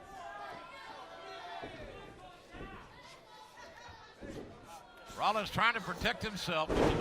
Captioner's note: crowd chatter